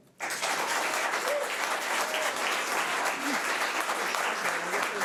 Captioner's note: audience applause